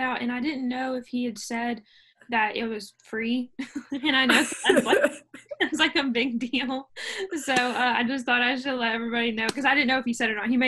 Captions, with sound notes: And, I didn't know if he had said that it was free. [laughter] And, I know that's like a big deal. So, I just thought I should let everybody know, because I didn't know if he said it or not.